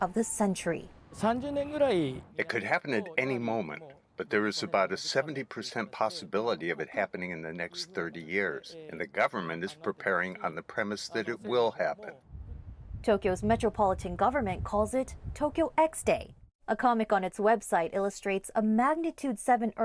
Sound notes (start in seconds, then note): 1.7 through translator